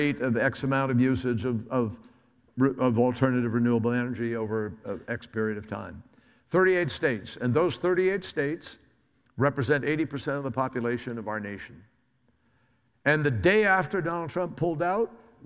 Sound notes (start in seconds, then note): none